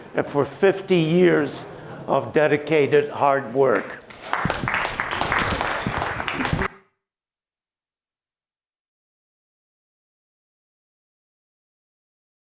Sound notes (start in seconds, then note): 4.0 applause